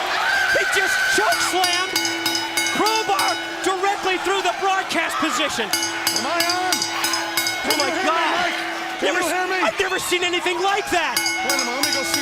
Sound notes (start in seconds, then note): 7.2 bell ringing